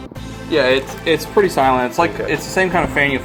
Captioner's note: voiceover